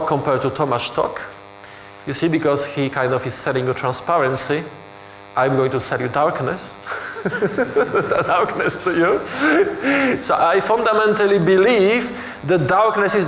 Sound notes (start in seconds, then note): 6.9 laughing